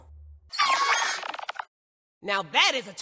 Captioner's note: termite king sounds